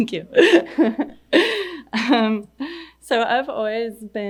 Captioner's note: laughing